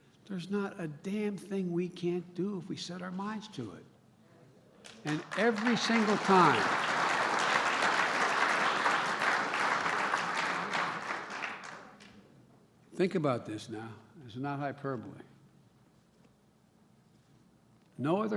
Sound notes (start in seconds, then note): 10.7 applause